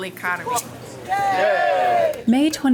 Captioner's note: crowd cheers